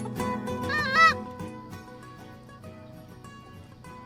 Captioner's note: duck call